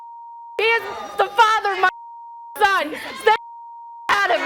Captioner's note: beep; beep